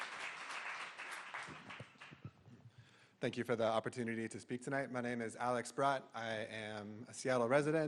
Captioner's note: applause